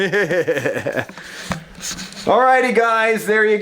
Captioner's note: chuckles